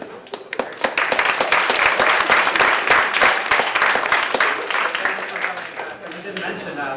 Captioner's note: applause